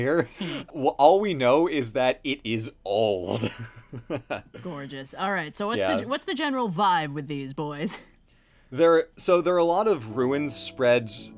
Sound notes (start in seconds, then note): 3.0 laughs